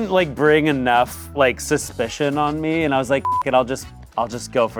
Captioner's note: beep